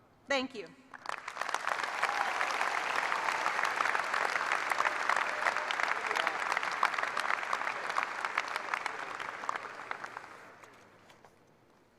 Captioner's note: applause